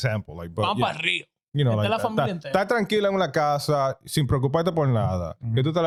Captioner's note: speaking In Foreign Language